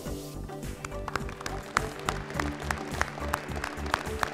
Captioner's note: all applauding